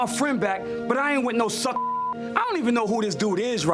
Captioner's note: beep